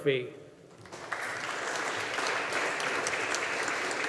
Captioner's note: audience applauding